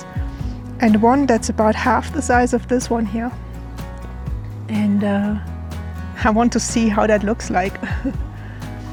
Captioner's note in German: lacht